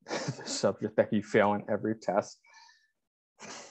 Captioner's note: chuckling